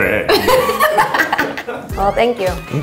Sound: laughs

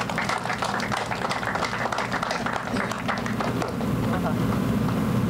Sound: applause

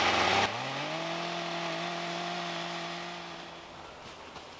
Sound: electric saw whirring

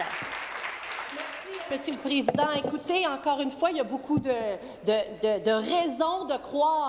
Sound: applause

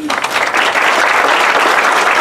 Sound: applause

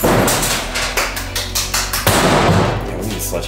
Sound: loud thud; clapping

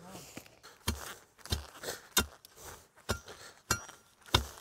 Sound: tool pounding

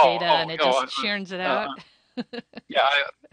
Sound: laughs

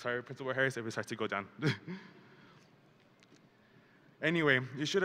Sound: chuckles

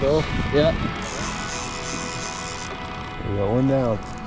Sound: reel whirring

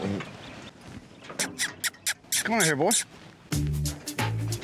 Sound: makes squeaky sound

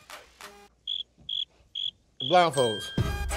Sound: crickets Chirping

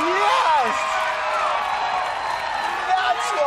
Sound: cheering and applause

